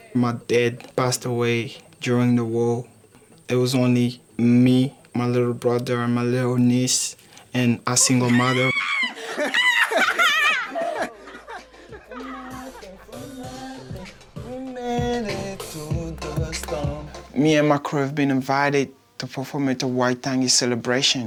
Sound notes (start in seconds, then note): 11.3 laughter